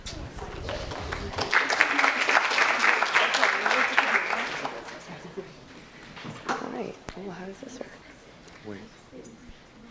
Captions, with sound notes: (audience applauds) - All right, oh how does this work?